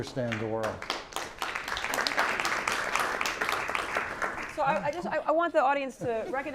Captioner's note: applause